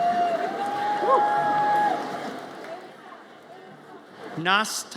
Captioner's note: audience cheers